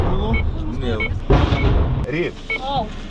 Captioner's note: sounds of loud explosions in the background